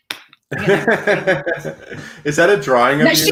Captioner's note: both laugh